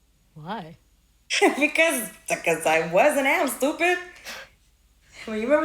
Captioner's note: laughs